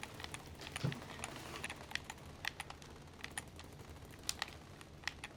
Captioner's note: rattling gunfire from video game